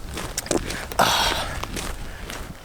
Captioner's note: grunting in finnish